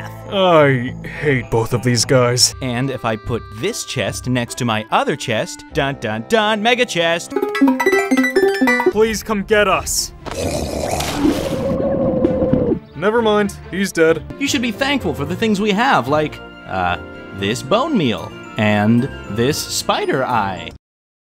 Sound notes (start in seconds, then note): 7.7 light music; 10.3 zombie growling; 11.9 Stan yelling